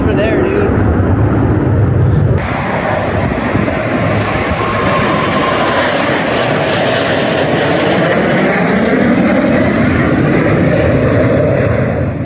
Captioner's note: jets flying